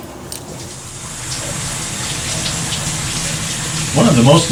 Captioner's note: rain pattering